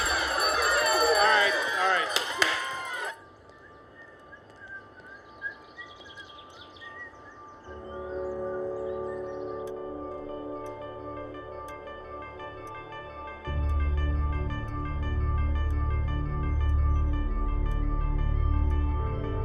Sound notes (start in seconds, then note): 0.0 bell rings; 4.3 whistling; 10.1 clock ticks